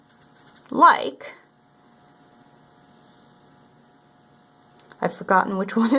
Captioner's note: writing sounds